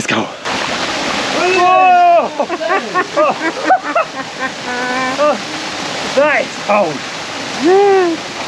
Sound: laughter

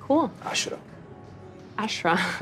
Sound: speaks Arabic

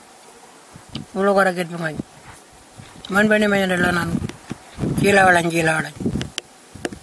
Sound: continues to speak in Aboriginal language

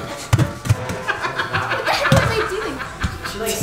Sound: laughing

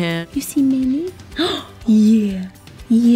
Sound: gasps

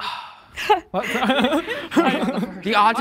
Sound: group laughing

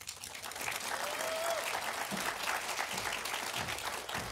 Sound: audience applauding

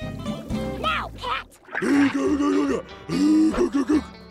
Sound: grunting

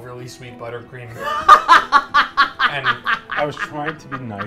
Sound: laughs

